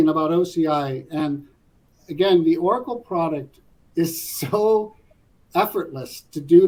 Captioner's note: laugh